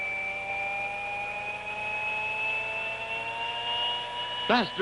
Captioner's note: engine roaring